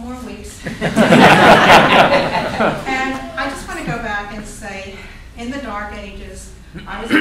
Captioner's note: laughter